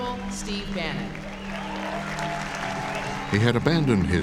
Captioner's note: cheers and applause